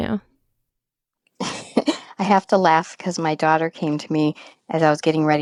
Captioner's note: laughs